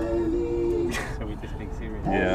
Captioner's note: laughing